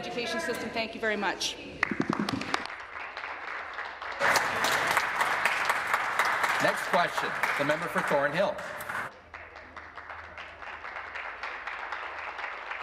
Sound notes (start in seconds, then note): 4.8 applause